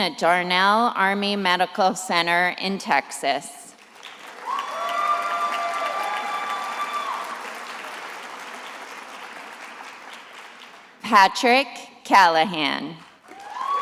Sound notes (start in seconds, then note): 3.8 attendees applauding and cheering; 13.2 attendees applauding and cheering